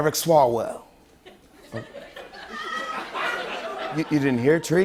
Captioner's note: light laughter